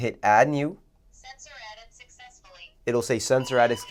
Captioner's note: motion speaking